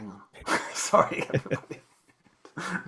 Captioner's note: laughs